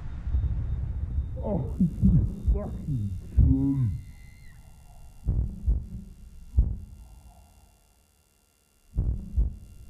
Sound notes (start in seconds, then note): 1.7 heart beat thudding